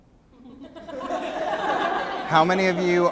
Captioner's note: laughter